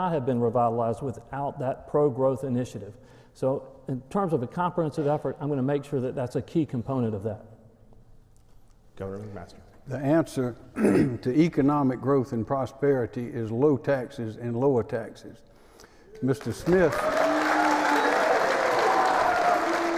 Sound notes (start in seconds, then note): 10.7 clears throat; 16.2 applause